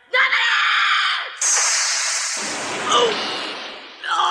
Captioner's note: SFX: spell sound